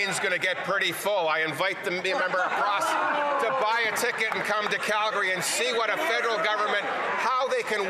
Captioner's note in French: voix de l'interprète